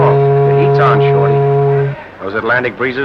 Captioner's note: ship horn